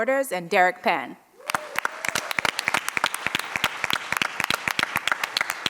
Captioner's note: audience applauds